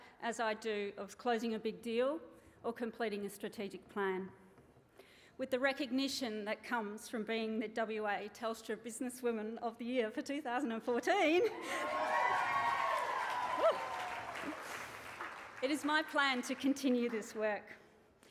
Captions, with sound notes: as I do of closing a big deal or completing a strategic plan. With the recognition that comes from being the WA Telstra Business Woman of the Year for 2014... (GIGGLES) (CHEERING AND APPLAUSE) Whoo! ..it is my plan to continue this work.